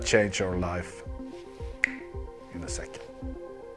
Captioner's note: fingers snap